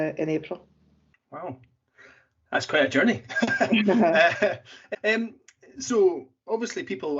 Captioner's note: laughs